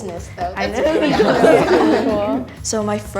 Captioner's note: laughing